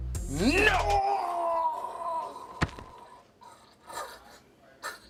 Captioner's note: vomits